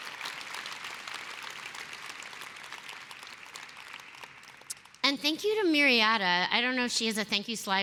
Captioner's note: applause